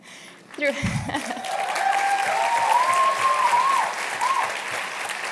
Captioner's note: cheers and applause